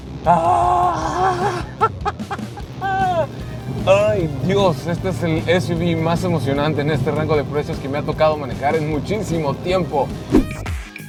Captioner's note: nervous laughter